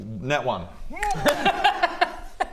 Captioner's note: mean laugh